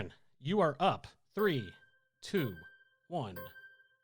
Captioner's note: melodic timer